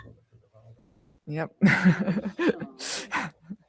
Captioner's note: laughs